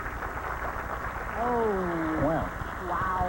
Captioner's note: applause